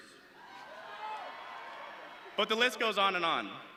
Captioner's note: audience cheering